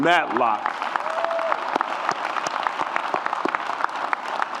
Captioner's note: audience applauds